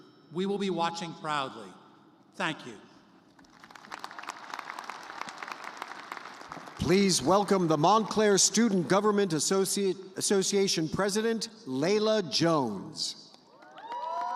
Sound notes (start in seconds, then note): 6.1 applause